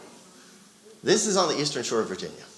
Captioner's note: audience chattering